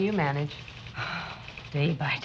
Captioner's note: sigh